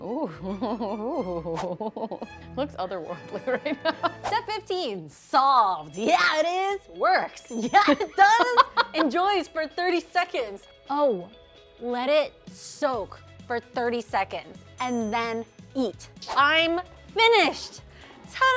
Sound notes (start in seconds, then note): 0.0 laughing; 7.4 bell dinging; 7.5 laughing; 14.8 bell dinging